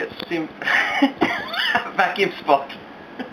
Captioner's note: laughs